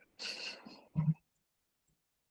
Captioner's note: snickering